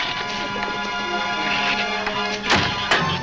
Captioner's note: shrews chatter; gate slams